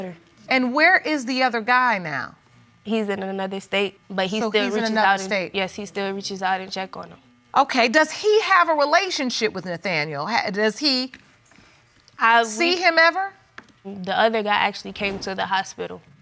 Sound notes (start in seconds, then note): none